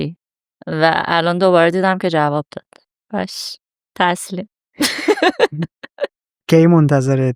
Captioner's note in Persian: خنده